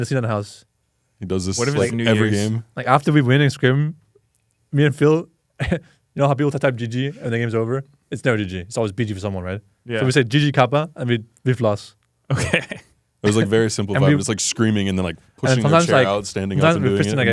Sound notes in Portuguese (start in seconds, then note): 5.4 risos; 12.3 risos